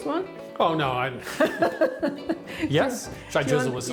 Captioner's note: laughs